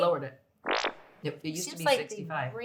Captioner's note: bottom farting